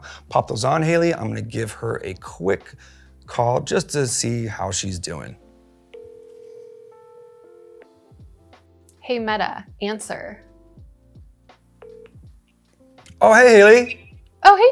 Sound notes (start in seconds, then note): 5.9 phone dial tone; 11.8 phone picks up